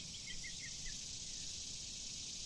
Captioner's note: birds chirping